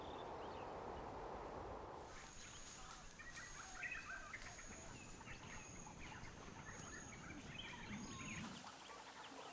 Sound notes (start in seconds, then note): 2.0 birds chirping